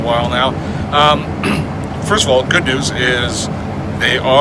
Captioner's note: clears throat